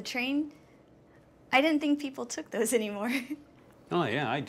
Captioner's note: chuckles